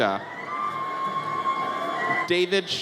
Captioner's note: audience cheers